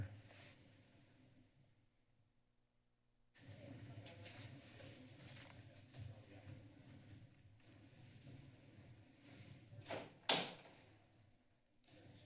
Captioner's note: silence